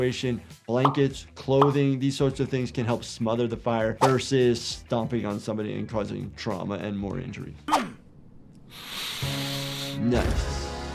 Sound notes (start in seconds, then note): 8.6 Cuddles inhaling